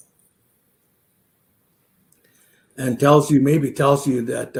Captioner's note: none